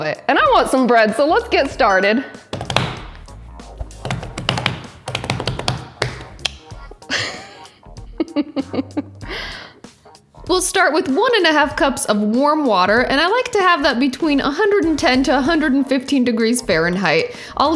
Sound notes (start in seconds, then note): 2.5 counter thudding; 7.0 laughs